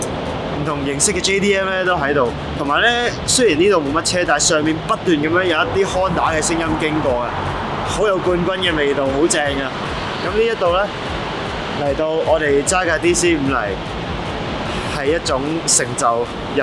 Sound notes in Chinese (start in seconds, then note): 6.2 汽車